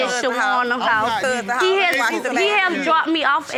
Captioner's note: all arguing